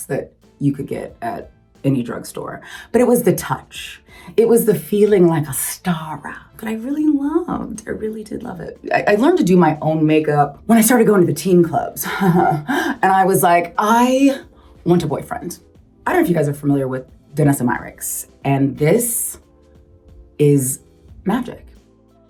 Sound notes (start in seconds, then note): 12.1 Gabrielle giggles; 21.1 upbeat music